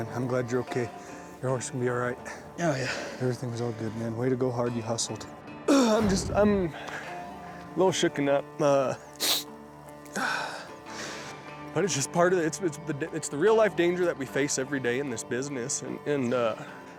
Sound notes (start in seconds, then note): 9.1 sniffles